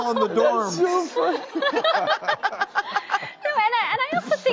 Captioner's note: laughs